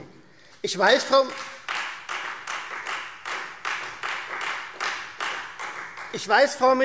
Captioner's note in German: Beifall Freie Demokraten